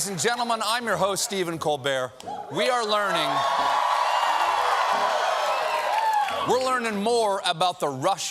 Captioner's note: cheers and applause